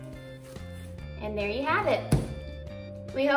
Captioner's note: thud